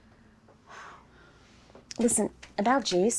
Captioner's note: sighing